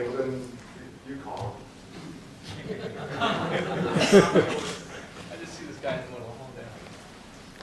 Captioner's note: laughter